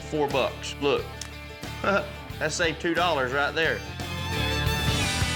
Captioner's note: chuckles